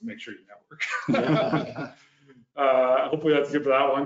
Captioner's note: all laugh